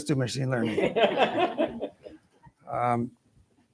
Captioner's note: laughter